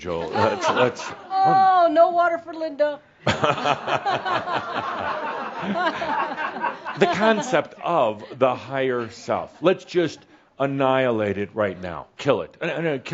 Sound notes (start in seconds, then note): 1.8 gasps; 5.9 laughter